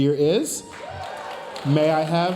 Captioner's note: audience cheering and applauding